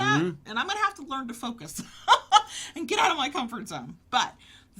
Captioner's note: laughs